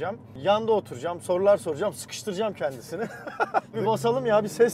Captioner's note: laughings